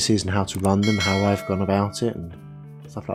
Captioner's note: bell ringing